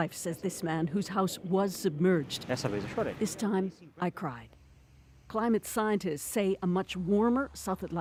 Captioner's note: speaking alternate language